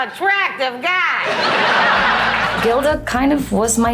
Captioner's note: laughing